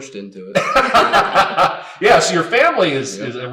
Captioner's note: laughing